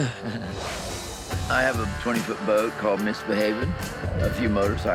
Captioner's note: laughs